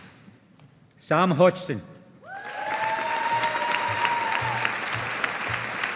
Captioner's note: audience applauding